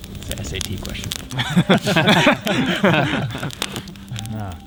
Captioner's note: all laugh